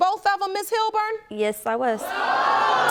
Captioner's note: audience groans